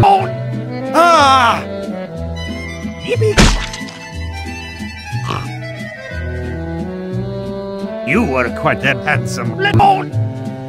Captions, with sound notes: *Surprised French Gasp* YIPPEE-- *Splat* *Snorts* You are quite the handsome LEMOHN.